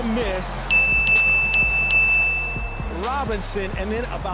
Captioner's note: bell dings